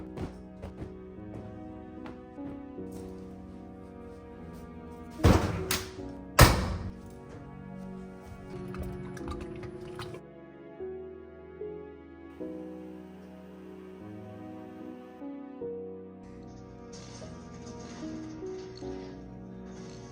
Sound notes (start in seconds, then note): 5.1 throwing laundry in washer